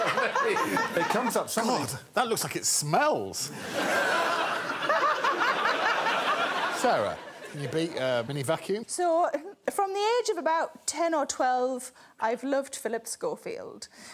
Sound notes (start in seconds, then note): 0.0 laughing; 3.7 all laughing